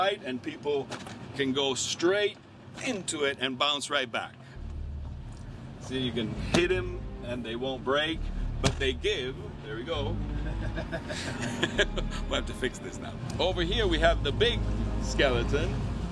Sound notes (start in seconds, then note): 9.9 man laughing; 11.5 chuckling